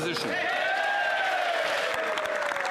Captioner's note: some Applause